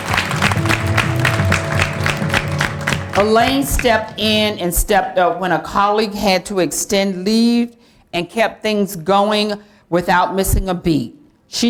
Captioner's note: applause